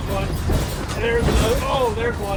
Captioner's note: metal rattling